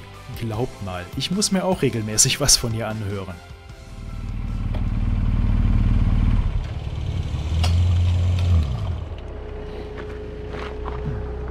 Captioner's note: laughs